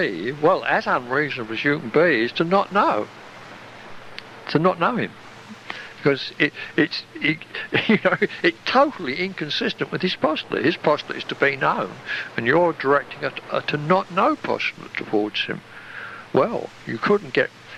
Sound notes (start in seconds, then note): 5.5 chuckle